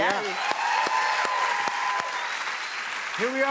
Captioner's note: cheers and applause